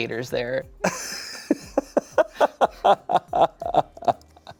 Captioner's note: laughs